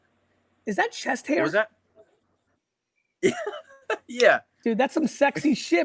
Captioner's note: laughs